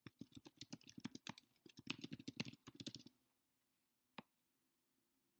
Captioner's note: keyboard keys clicking